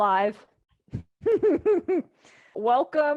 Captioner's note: laughs